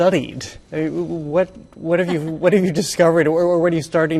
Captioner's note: laughs